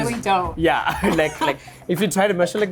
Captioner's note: laughs